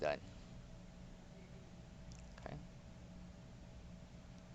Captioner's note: machine running